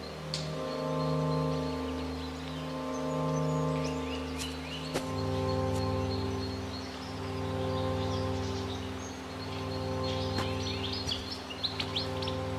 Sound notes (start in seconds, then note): 4.3 birds chirping; 4.3 bleak music continues